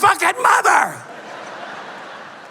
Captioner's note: laughter